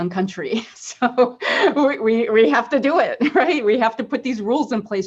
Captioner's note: laughs